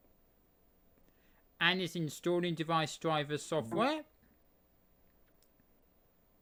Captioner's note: windows device connect sound